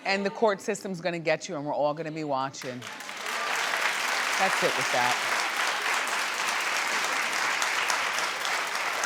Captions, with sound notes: And the court system's gonna get you and we're all gonna be watching. (audience cheering) That's it with that.